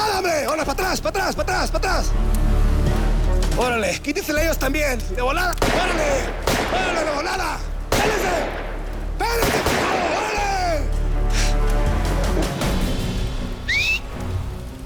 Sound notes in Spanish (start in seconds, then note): 7.6 Disparos; 13.6 Chiflido